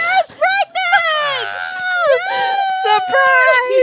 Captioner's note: both laughing